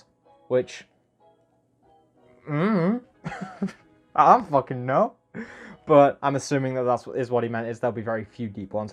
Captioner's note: I dunno/questioning sound